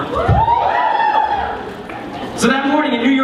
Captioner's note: cheering